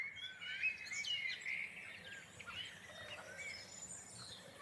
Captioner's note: birds chirping